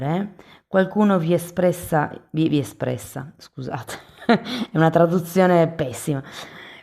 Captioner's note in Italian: risate